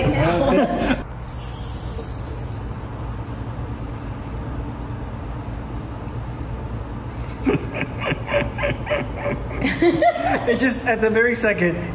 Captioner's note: streak-type noise; laughter